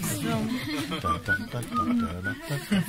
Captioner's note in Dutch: zingt; gelach; gefluit